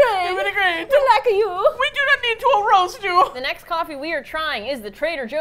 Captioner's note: attempting Italian accent